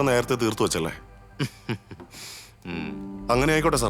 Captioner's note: mocking laughter